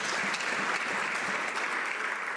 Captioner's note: some Applause